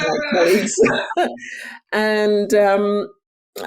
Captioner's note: laughing